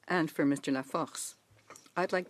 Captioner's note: speaking French